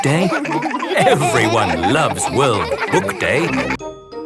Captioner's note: laughter